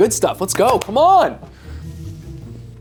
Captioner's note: claps